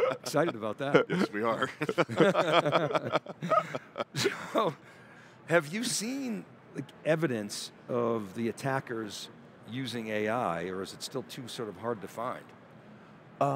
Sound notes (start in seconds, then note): 1.8 chuckling